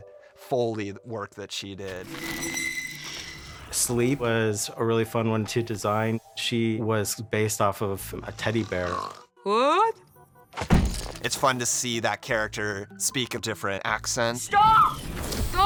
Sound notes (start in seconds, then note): 8.2 snoring